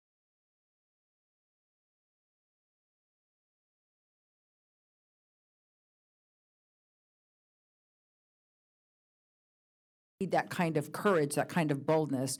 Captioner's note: audio break